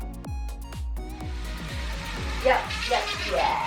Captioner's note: drill whirring